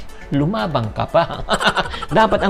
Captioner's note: laughs